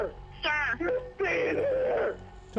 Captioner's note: on phone